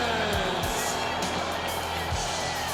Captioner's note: crowd cheering